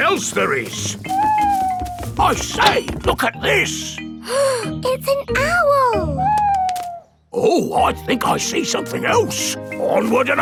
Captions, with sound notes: Let's see what else there is. (OWL HOOTING) I say, look at this! (GASPS) It's an owl! Oh, I think I see something else.